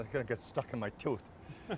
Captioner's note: laughter